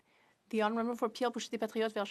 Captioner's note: speaking French